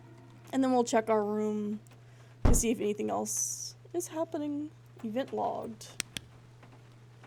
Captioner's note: loud Thud